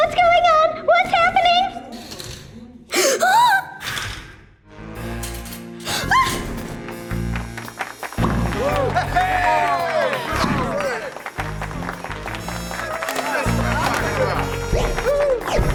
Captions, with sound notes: What's going on, what's happening? (gasps) (detective music) (gasps) (clapping) (cheering)